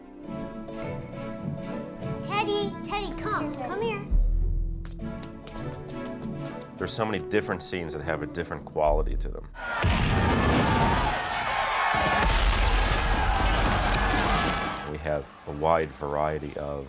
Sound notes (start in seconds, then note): 9.5 bloodthirsty cheering